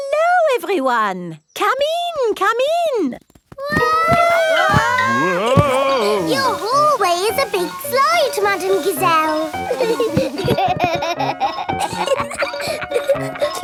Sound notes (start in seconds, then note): 4.0 all yelling; 10.5 giggling